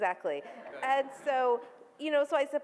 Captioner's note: audience laughs